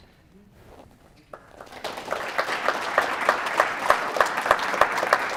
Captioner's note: audience applauds